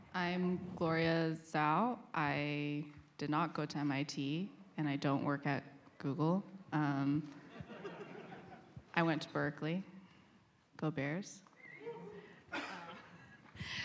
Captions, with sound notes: I'm Gloria Zhao. I did not go to MIT and I don't work at Google. [LAUGHTER] I went to Berkeley. Go Bears.